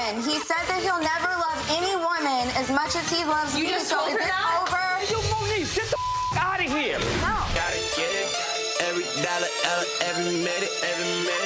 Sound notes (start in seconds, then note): 5.8 beep; 8.2 rap music playing